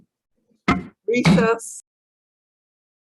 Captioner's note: gavel striking